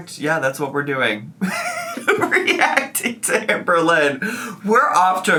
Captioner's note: laughs